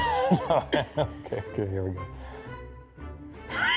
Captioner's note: laughing